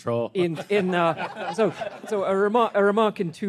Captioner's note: everyone laughing